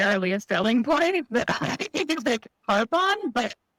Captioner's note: laughs